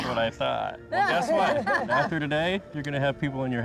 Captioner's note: laughter